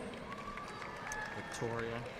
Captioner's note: audience cheering and applauding